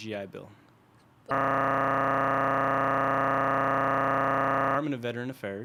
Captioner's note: distorted Audio